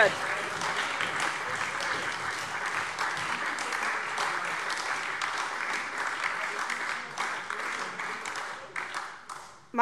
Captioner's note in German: Beifall SPD, Freie Demokraten und DIE LINKE